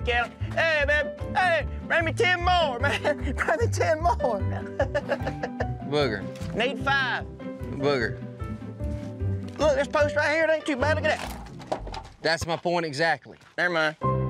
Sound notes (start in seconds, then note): 2.8 laughs; 10.9 wood crumbling